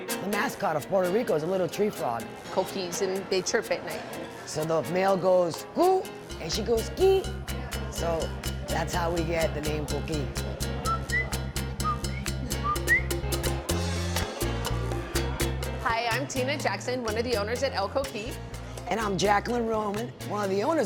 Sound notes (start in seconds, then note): 10.3 whistles; 12.6 upbeat music plays